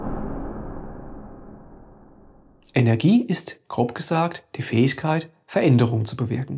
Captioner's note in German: Woosh